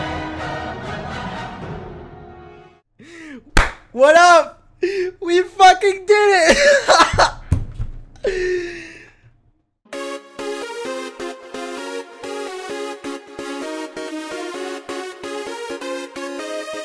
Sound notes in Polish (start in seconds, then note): 3.5 klaśnięcie; 6.4 śmiech